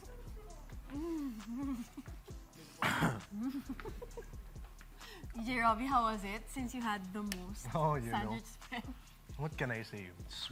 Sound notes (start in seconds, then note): 0.9 groaning, chuckling; 2.7 giggling; 2.7 clears throat